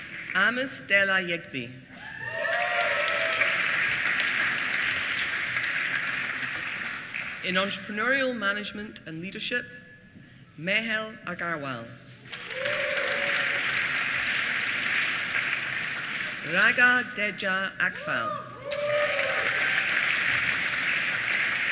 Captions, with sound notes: Amos Dela Yegbe. (APPLAUSE) In Entrepreneurial Management and Leadership, Mehul Agarwal. (APPLAUSE) Raga Dedja Akhfal. (APPLAUSE)